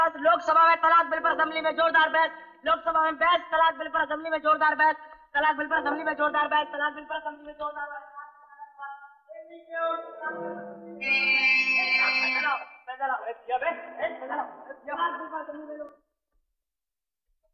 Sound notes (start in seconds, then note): 10.4 horn blares